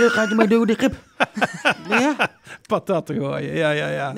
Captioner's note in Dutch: gelach